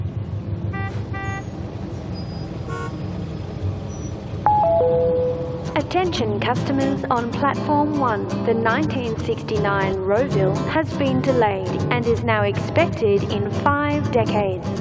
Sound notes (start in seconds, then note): 0.1 car horns; 4.4 electronic bell